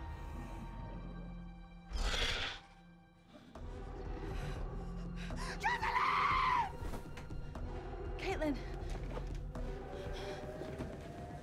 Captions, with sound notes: (dinosaur growls) - Jocelyn! - Caitlyn.